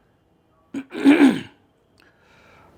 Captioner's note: clears throat